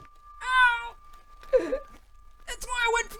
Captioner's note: sobs